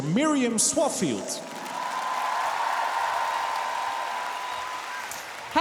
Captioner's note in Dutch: applaus